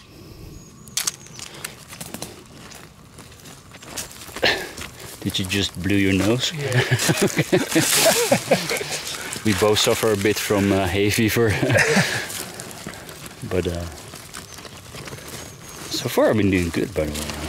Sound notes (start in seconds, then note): 6.6 both laughing